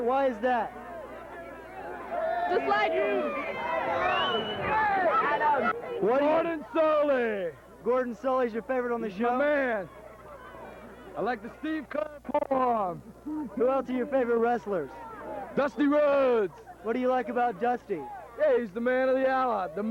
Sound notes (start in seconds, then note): 1.2 crowd chattering